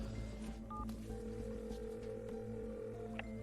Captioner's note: beep, line rings